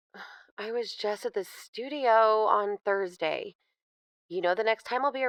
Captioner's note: sigh